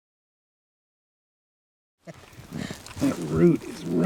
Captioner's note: digging sounds